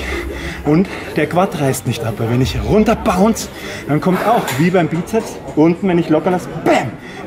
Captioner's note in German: bäm